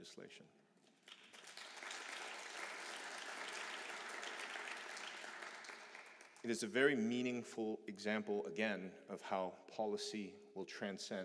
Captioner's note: applause